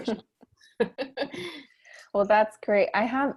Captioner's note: chuckles